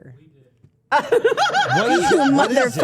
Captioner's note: Steph laughing